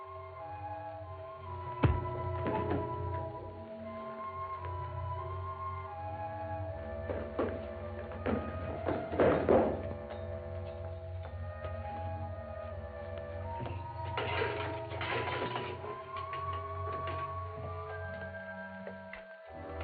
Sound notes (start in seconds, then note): 1.8 thud; 14.0 lock rattling